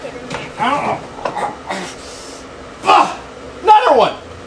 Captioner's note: grunts